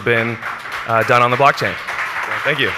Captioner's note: crowd clapping